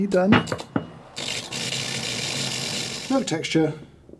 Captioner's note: machine releases steams